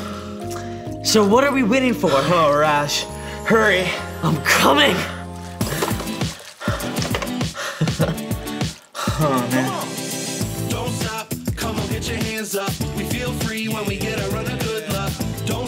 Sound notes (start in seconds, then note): 5.0 heavy breathing; 6.0 upbeat music